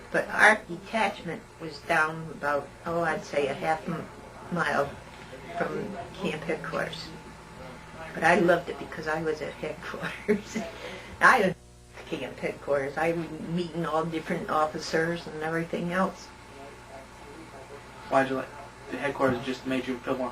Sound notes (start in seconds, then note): 9.9 laughter